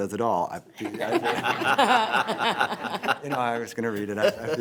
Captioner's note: board members laughing